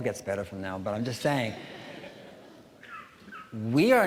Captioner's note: audience chuckling